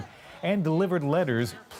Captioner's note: chanting